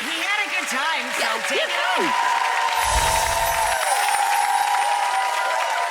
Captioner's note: audience claps and cheers